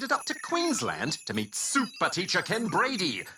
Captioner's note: laughs